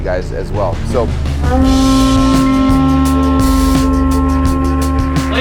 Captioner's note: conch blaring